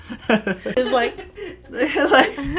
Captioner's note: laughter